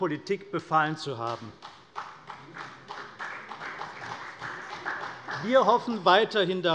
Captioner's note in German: Vereinzelter Beifall CDU